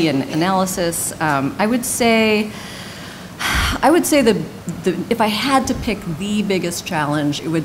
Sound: sigh

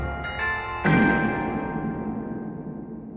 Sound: fart with reverb

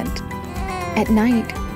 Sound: baby fusses

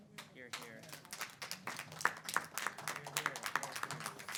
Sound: audience applauding

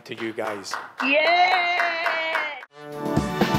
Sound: cheering

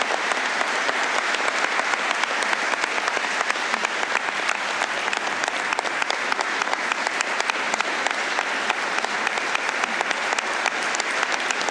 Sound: applause

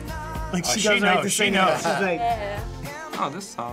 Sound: giggles

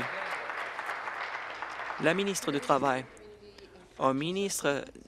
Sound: applause

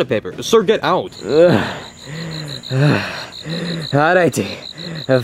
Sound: heavily breathing

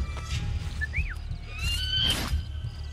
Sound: eagle screech; Ezio whistles; hidden blade stabbing sound

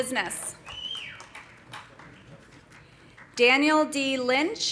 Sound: man whistling

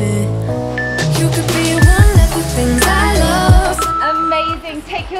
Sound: timer beeps

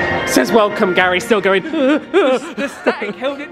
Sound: panic noise

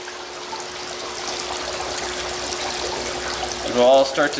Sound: water running

